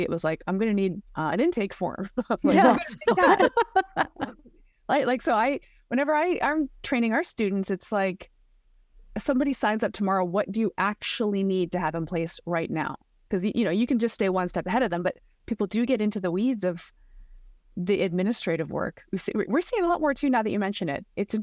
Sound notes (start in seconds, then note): 2.4 both laughing